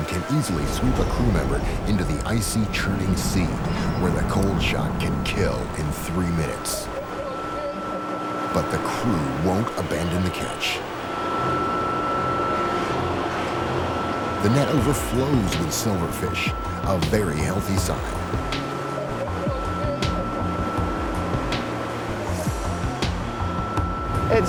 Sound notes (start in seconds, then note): 7.1 crew shouting; 11.2 tense music; 19.2 crewman shouting; 19.2 machinery whirring; 20.7 pensive electronic music